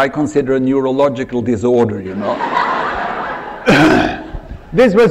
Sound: laughter

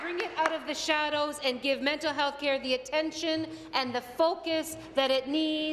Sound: applause

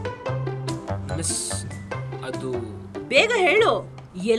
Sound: stammering

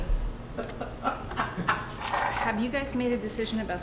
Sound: Olympia laughs

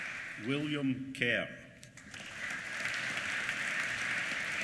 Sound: applause

